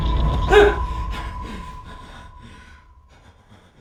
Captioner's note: man gasps